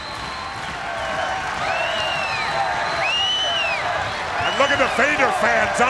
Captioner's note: crowd clapping and stomping; chants "Vader"